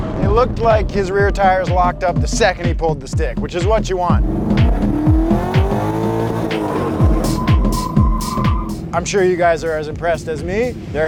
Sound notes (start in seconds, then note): 4.7 car engine revving; 6.8 tires screeching